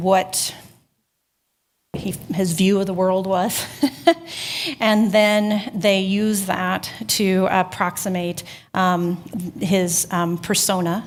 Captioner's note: chuckling